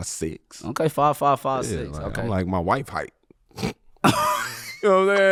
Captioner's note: laughing